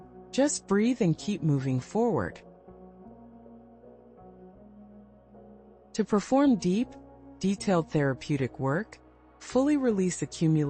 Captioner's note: pause